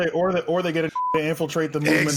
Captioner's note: beep